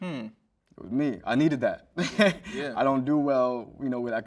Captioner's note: chuckles